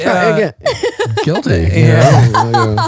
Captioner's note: laughing